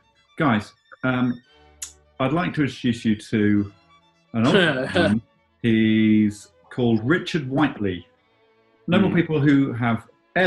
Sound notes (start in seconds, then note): 5.6 chuckling